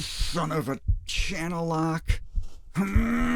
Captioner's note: heartbeats